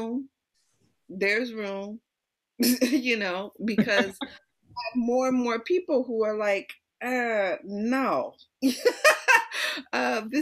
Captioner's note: laughter